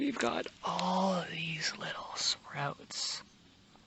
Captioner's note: whispers